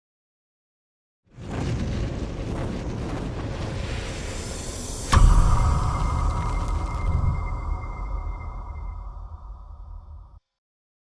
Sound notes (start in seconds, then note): 1.6 bird whoosh